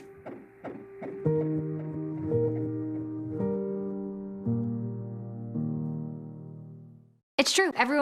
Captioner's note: sound of heartbeat on ultrasound